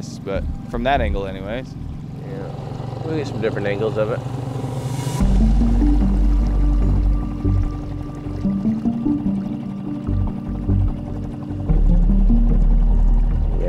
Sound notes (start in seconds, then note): 5.2 boat engine rumbling; 5.2 slow-tempo synth music